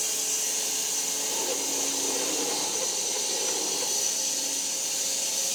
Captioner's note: saw buzzing continues